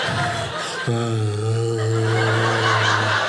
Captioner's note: audience laughing; groans; audience laughing